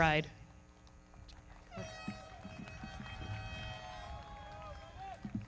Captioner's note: foghorn blaring; audience cheering; everybody clapping